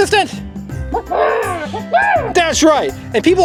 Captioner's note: clucks